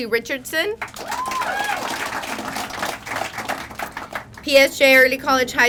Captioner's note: crowd applauding; crowd cheering